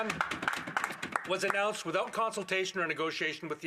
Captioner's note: some Applause